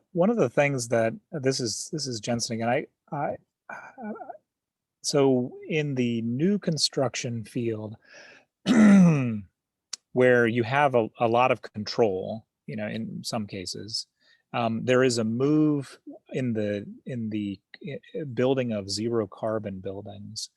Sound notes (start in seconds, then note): 8.6 clears throat